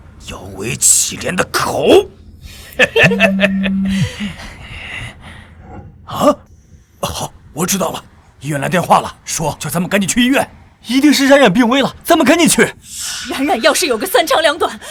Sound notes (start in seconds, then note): 2.6 sinister chuckle